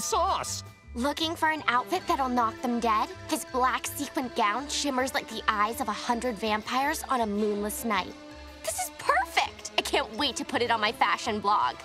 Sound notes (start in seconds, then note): none